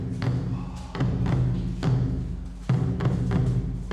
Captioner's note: both exhale